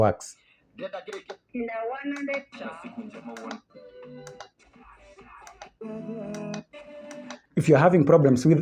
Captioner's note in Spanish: Sonido de estaciones de radio FM